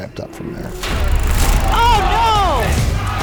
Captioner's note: camera clicks